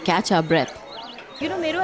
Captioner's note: birds chirpping